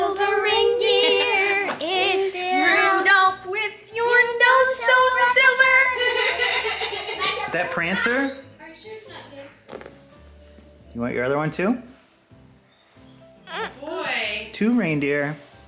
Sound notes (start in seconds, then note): 5.9 everyone laughing